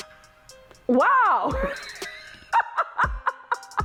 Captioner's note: laughs